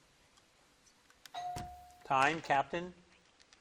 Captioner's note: bell dings